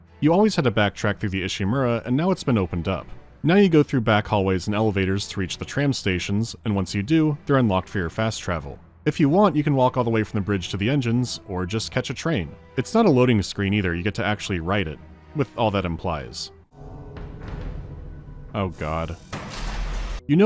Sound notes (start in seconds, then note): 16.6 clank-a-dunk